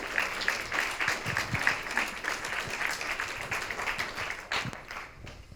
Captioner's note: audience applauding